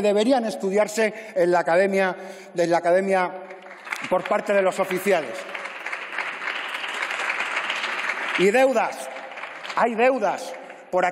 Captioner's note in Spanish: Aplausos